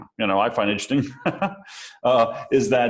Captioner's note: laughs